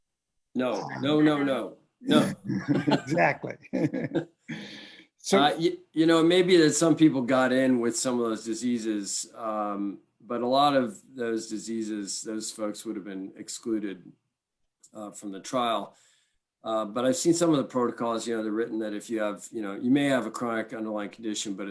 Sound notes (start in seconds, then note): 2.1 laughs